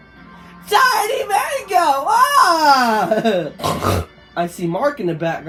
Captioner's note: snorts 2x